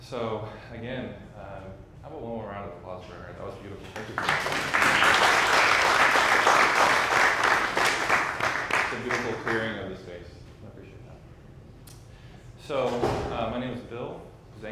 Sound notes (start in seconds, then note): 3.8 audience clapping